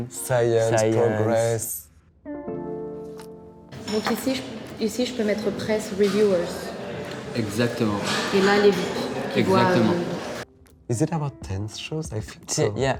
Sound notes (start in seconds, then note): 2.3 gentle music; 4.0 both speaking in a foreign language